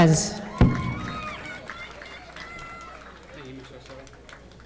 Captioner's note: audience applauding